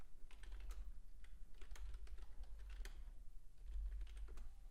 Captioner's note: keyboard clicking